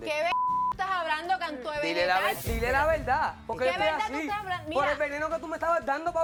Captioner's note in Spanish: Bip